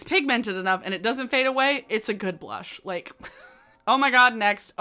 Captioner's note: giggles